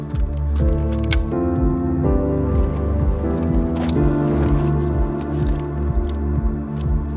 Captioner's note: gentle piano music; button clicks